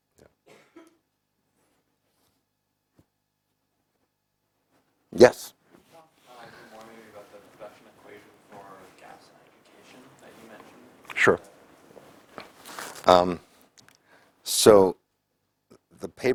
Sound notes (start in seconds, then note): 0.4 cough